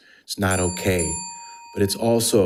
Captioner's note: bell dings